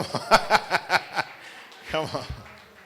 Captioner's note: laughter